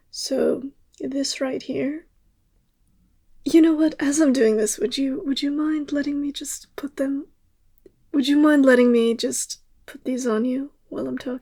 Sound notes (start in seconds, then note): none